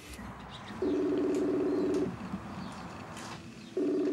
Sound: line rings

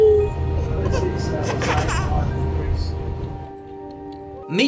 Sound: laughing

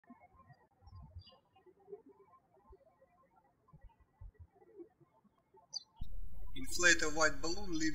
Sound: birds chirping

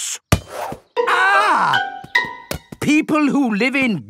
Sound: screams

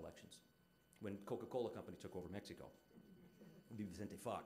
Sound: audience chuckling

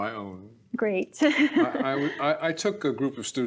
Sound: laughing

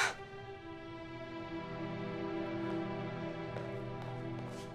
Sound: exasperated sigh

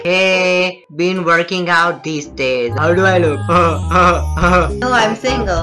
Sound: chuckle: haha

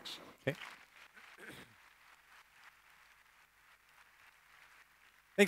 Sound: applause

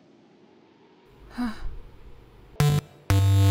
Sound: sigh

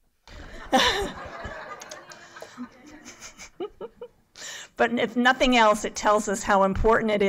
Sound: laughter

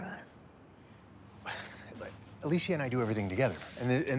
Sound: sighs

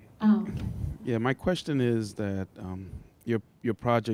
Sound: voiceover

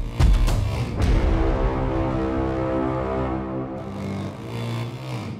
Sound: horn blowing

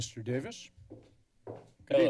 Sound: footsteps

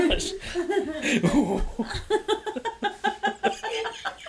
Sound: laughing

